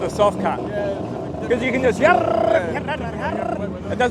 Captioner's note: car noises